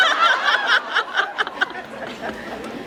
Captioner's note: laughs